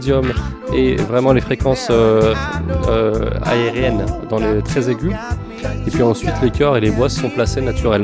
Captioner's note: in the very high pitch